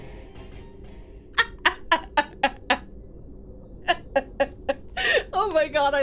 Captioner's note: laughs